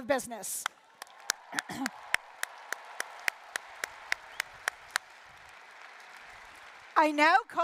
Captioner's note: applause